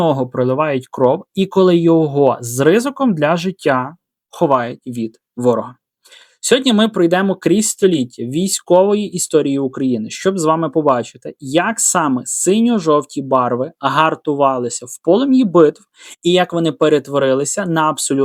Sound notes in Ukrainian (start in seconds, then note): 6.1 сопіння